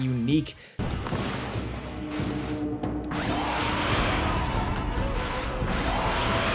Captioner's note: creatures roaring; upbeat music